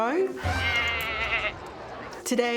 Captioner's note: goat bleats